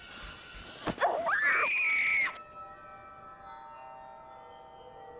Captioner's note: Carla screaming